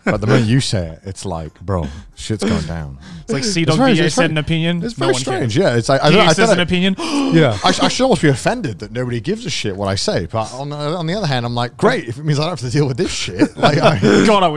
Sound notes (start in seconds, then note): 7.0 loud gasp